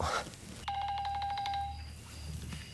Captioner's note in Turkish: Telefon çalıyor